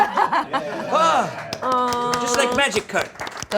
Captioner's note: crew swooning and applauding